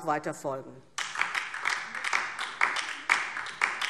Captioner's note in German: Beifall DIE LINKE